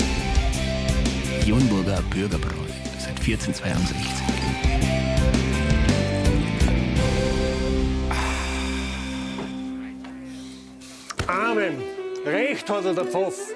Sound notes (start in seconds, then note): 8.0 sigh